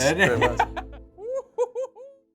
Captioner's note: laughs